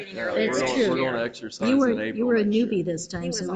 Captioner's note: board members chattering